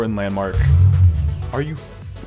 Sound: loud vehicle rumbling sound

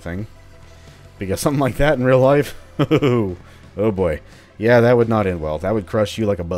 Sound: chuckles

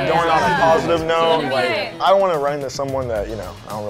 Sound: group chatters

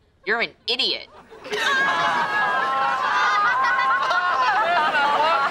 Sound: laughing

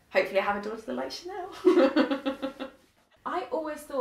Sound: laughing

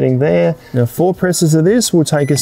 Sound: control panel dings

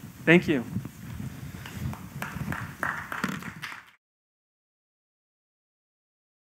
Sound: applause

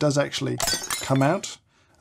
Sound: detachable base shattering

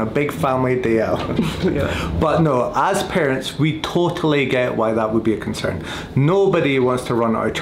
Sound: both laugh

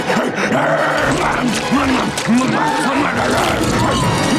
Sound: growling and panting

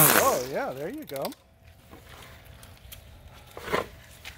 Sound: starts string trimmer

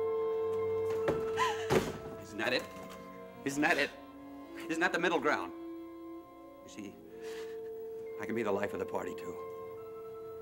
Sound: Gerta sobbing

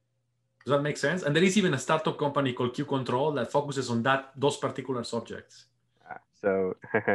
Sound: chuckles

